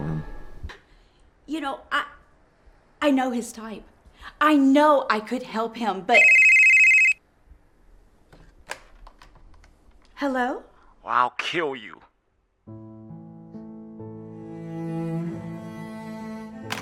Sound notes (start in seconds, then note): 6.1 phone rings; 8.3 phone receiver clatters; 12.6 somber instrumental music